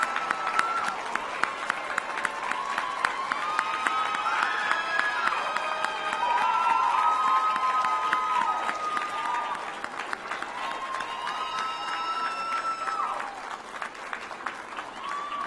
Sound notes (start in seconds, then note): 2.8 applause